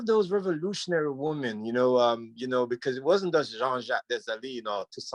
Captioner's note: speaks Creole